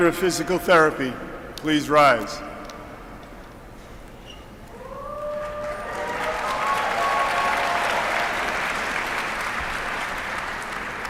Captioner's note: applause